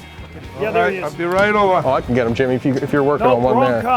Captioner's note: laughs